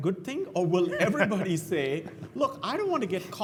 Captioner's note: laugh